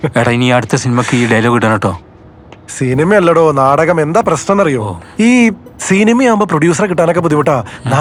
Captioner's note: none